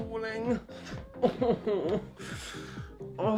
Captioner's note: whimpers